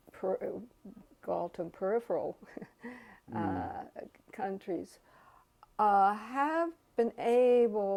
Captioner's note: laugh